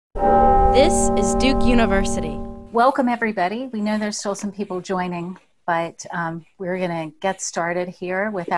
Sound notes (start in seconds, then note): 0.2 bell chimes